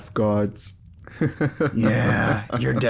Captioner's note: laughing at his own joke like a narcissist